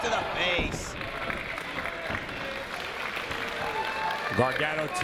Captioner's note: applause